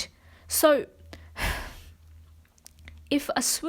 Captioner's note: sighs